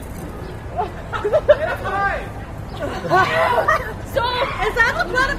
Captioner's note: laughter